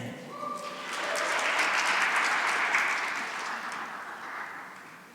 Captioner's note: cheering and applause